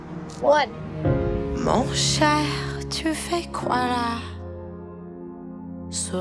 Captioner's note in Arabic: فرنسي